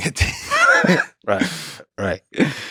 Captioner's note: Craig laughs